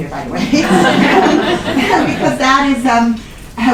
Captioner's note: laughter